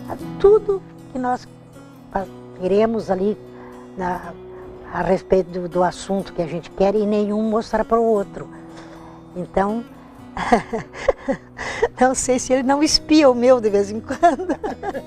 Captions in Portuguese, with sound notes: tudo que nós iremos ali a respeito do assunto que a gente quer e nenhum mostrar pro outro. Então (risos) não sei se ele não espia o meu de vez em quando.